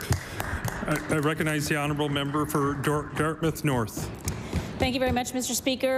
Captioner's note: applause